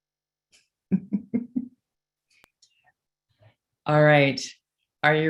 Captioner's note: laughing